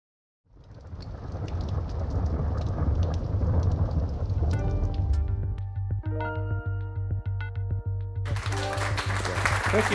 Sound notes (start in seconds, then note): 0.5 thunderclap & Rain; 8.2 applause